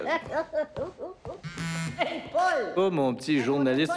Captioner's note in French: vibrations de cellulaire